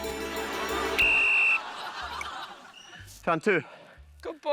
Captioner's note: whistle blows